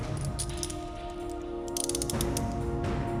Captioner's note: handcuffs clicking